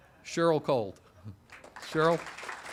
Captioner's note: audience applauding